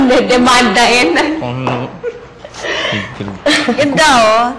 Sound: chuckles

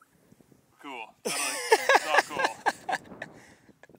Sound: laughing

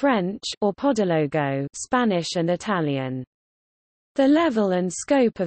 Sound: spanish and Italian

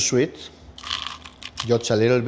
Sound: crunch

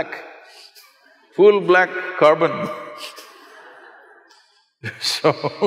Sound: laughter; laughs

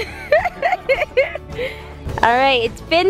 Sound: giggles

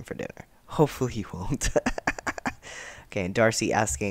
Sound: laughter

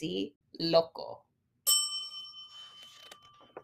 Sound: bell dings

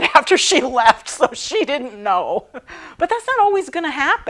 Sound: laughing

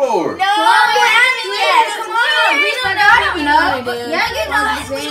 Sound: kids all talking at once

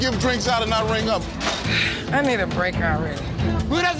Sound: sighing

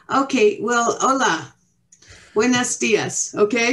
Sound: speaking Mexican

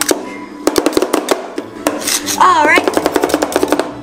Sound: spatulas chopping

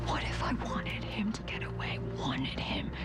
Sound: whispering

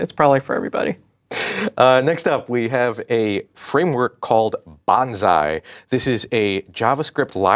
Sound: chuckles

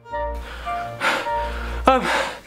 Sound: gasping

